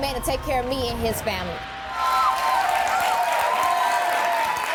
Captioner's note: crowd cheering